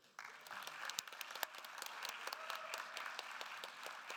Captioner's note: attendees applauding